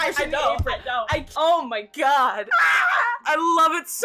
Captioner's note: raw eldritch squeals